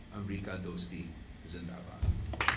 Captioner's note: in Urdu; applause